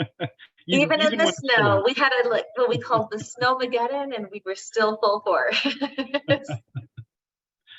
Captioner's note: laughing